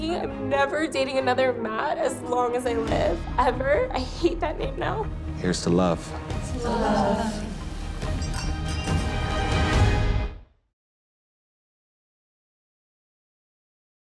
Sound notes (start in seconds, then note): 8.0 glasses clinking